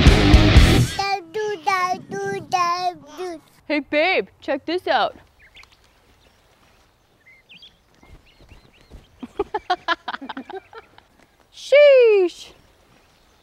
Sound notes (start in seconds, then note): 0.0 upbeat rock music; 9.2 laughs